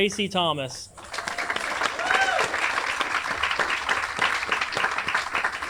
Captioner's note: everyone applauds and cheers